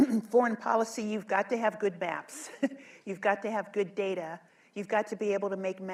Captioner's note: laughs